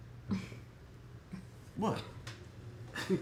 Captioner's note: Erica scoffs